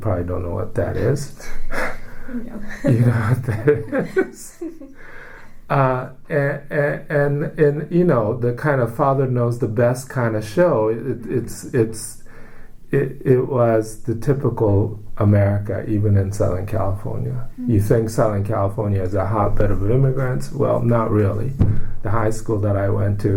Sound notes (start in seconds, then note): 1.4 laughs; 2.6 all laugh